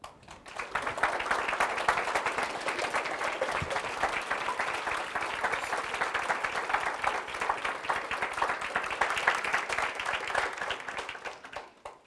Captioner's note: applause